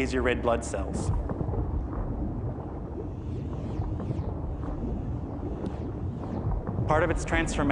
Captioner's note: zooming noises of red blood cells and parasites